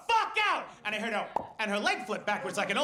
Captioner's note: popping